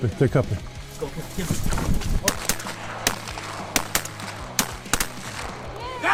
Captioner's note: rapid gun shots